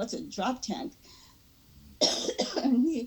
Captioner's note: coughing